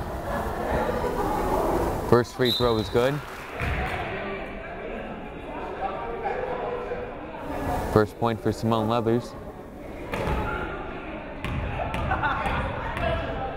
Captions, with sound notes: First free throw is good. (whistle blows) (crowd applauding) (crowd chattering) First point for Simone Leathers. (crowd chattering)